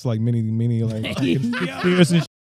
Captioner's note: laughing